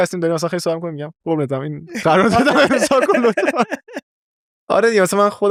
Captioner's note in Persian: خنده